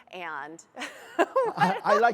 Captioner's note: laughs